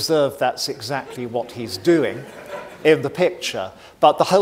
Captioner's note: audience laughing